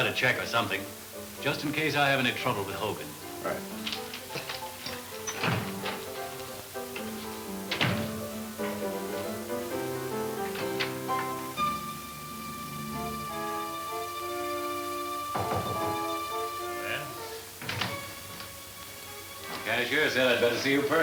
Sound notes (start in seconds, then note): 4.3 fun upbeat piano music; 11.5 pensive orchestra music; 15.3 knocking on door